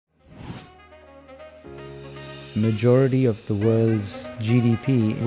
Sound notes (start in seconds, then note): 0.2 air whooshing; 0.6 energetic jazz music